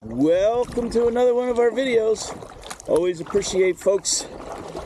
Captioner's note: paddling and water noises throughout